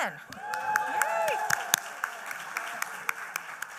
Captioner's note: applause